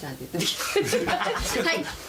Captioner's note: all chuckling